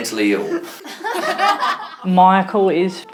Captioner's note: laughter